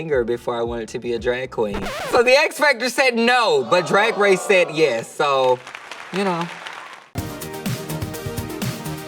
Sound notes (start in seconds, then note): 1.7 record scratching; 7.6 audience applauding